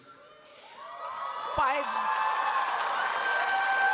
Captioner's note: cheers, applause